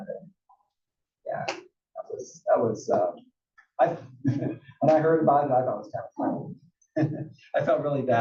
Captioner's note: laugh